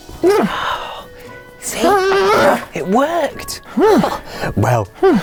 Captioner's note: strains and pants